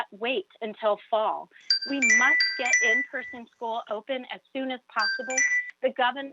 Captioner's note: chime